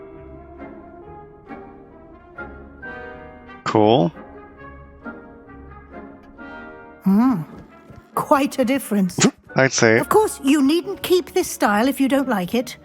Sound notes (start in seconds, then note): 8.9 hmpf